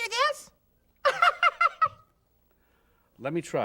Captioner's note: laughs